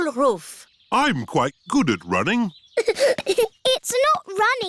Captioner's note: giggling